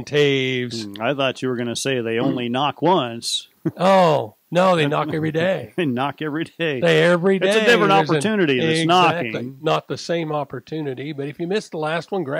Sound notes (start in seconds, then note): 3.6 chuckles